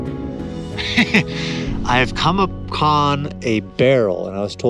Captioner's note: laughing